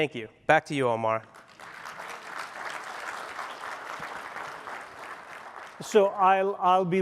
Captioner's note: applause